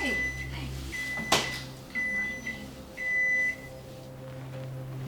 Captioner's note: microwave beeps